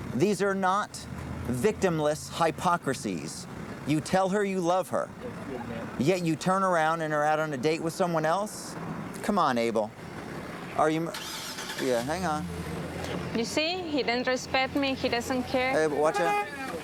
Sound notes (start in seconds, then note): 11.0 engine starts